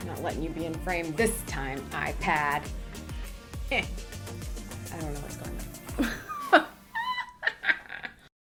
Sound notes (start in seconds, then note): 3.6 grunts; 6.0 laughs